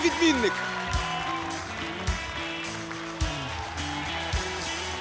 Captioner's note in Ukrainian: оплески